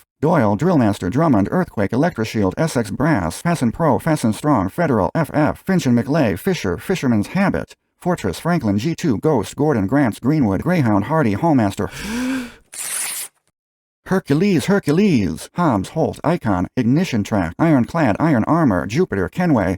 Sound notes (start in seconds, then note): 11.8 gasp; 12.6 paper tearing sound